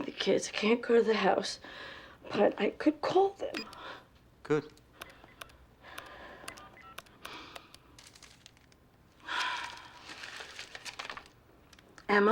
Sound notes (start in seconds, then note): 5.8 dialing; 6.6 sighs; 9.2 sighs